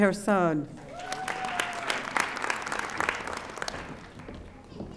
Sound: audience applauding

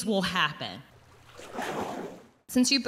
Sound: water splashing

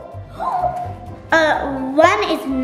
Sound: gasps

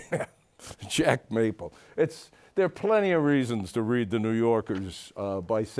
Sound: laughs

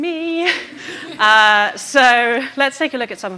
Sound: audience laughing

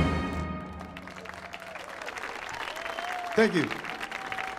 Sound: audience cheering; audience clapping

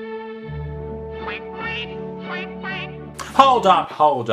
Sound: quacking in time with music

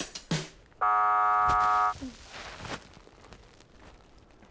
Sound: buzzer sounds

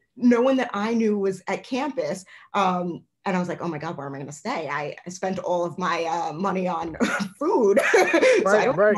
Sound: laughter

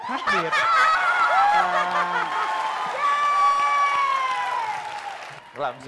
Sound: laughing + clapping

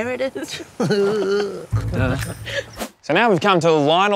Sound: laghs

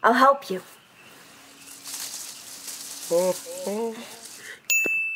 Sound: leaves rustling

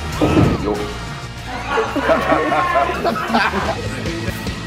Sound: laughing

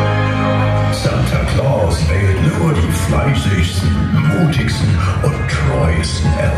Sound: german

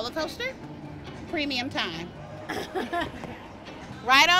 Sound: laughs

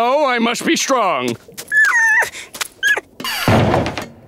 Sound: whimpering

